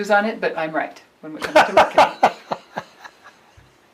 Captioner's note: laughs